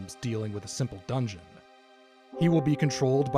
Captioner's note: none